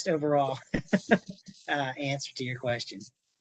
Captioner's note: laughter